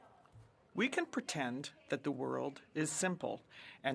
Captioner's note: speaking French